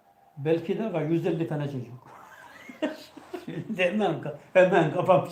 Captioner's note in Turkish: kahkaha